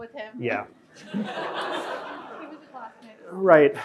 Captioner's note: audience laughing